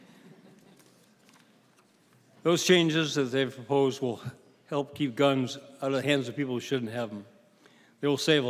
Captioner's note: laughing